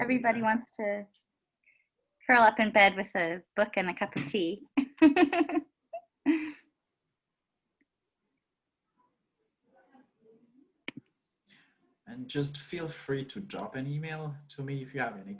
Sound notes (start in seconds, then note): 4.9 laughs